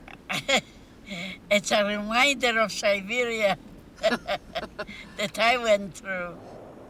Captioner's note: laughs